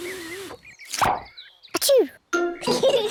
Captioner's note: sneezes; both giggle